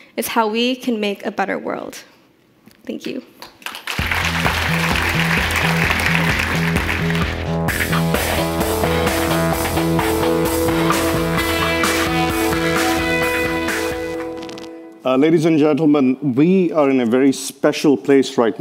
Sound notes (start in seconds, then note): 3.5 audience applauding; 3.9 lively electronic music